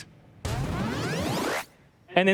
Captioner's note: boosting sound effect